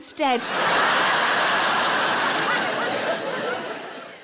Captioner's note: audience laughing